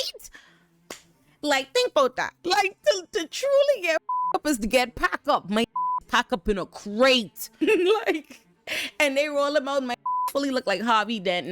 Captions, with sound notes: Like, think about that. Like, to truly get (beep) up is to get pack up. My (beep) pack up in a crate. (laughs) And they rollin' my (beep) fully look like Harvey Dent.